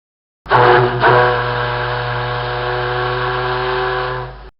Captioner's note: ship Horn